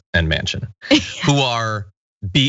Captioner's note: laugh